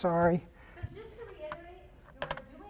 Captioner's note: voiceover